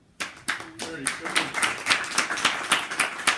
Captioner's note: applause